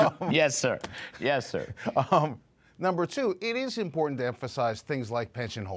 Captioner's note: laughter